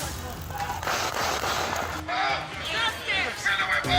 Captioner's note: gunshots; taser buzzes; crowd